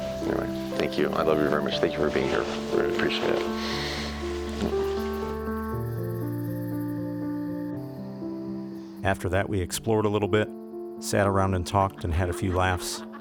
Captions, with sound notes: Anyway. Thank you. I love you very much. Thank you for being here. I really appreciate it. (Voiceover) After that, we explored a little bit, sat around and talked and had a few laughs,